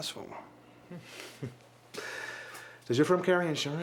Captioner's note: chuckles